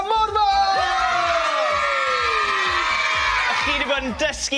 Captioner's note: cheering